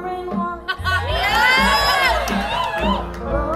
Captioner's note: audience cheers